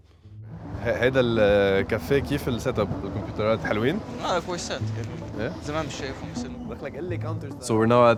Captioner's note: speaking in Arabic